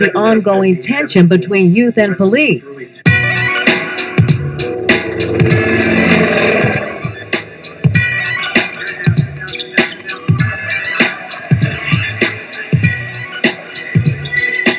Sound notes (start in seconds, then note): 9.1 shoes squeaking on basketball court